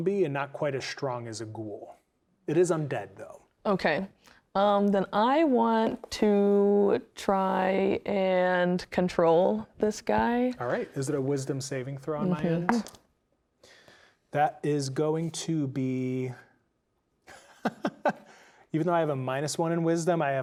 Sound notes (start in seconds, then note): 12.7 dice rolling; 17.3 laughing